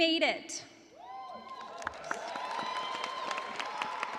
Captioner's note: cheers and applause